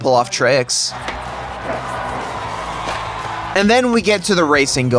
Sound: crowd is literally fucking dying rn

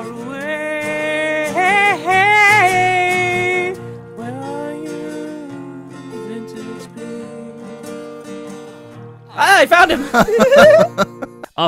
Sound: guitar softens; laughs

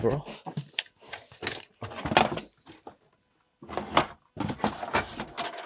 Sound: plastic clattering

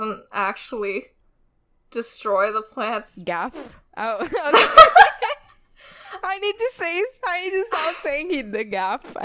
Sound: laughs

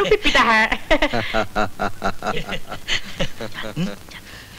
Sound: laughs

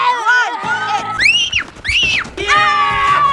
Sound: woman yells; cheering; screaming

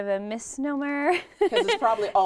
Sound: laughing

